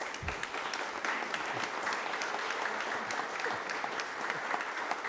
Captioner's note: applause